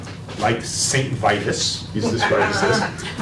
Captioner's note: laughter